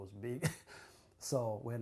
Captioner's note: laughs